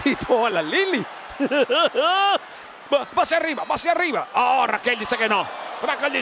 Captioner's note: laugh